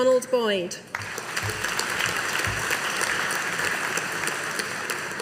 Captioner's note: audience applauding